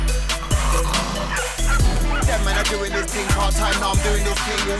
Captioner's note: dog barking